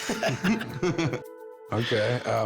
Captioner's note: laughter